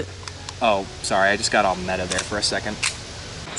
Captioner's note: cocks gun